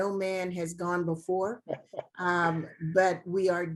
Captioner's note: laughs